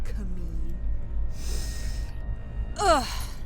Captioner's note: Lock inhales deeply; groans